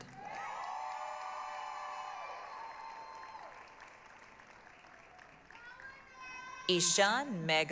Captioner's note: applause, cheering